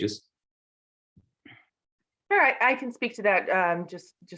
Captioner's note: cough